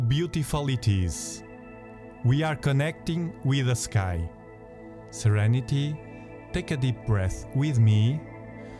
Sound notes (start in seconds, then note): 8.4 deep breath